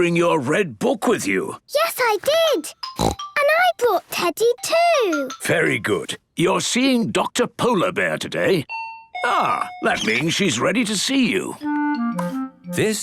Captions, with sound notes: - And did you bring your red book with you? - Yes, I did! (snorts) And I brought Teddy too! - Very good! You're seeing Doctor Polar Bear today. (dinging) Ah! That means she's ready to see you.